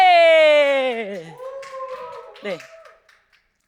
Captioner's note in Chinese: 欢呼声